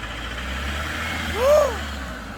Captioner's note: scream